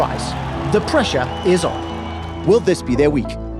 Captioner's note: crowd cheering, applauding